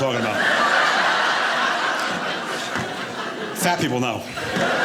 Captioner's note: audience laughing